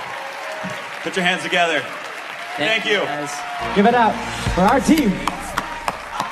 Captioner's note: applause